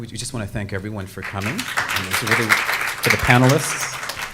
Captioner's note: everyone clapping